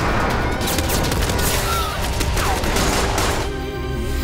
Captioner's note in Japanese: 銃声